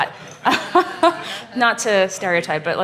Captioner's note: laughing